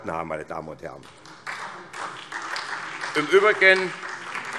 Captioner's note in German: Beifall